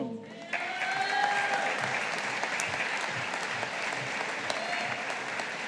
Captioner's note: audience applauding